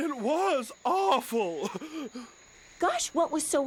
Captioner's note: Dreamer sobs again